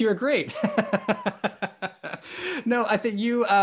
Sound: laughs

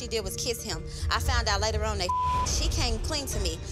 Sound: beep

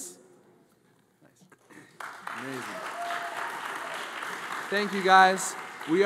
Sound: audience applauds

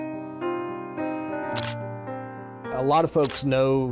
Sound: mellow music; camera shutter clicks

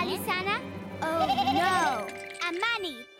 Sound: bleating in terror

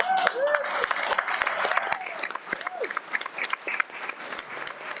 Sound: everyone cheers and applauds

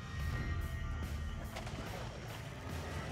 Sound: splashihing

